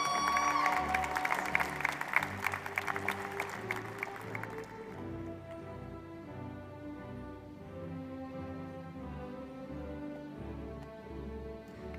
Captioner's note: applause